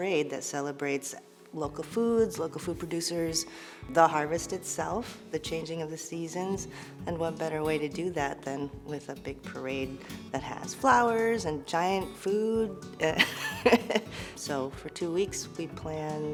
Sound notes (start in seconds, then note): 13.1 laughs